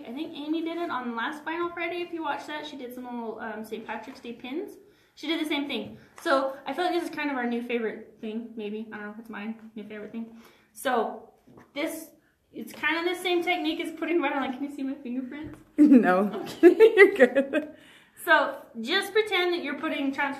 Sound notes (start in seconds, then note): 16.4 laughs